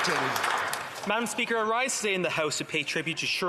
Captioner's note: some Applause